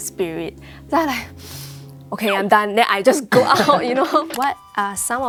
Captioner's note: deep breathes